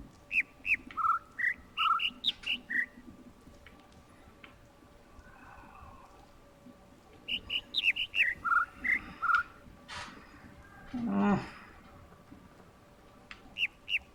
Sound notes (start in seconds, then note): 0.2 overlapping birds chirping, ˥ ˥ ˩ ˧ ˩; 7.2 overlapping birds chirping, ˥ ˥ ˩ ˧ ˩; 7.2 whimpers; 13.1 overlapping birds chirping, ˥ ˥ ˩ ˧ ˩